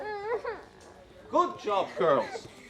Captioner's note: girls crying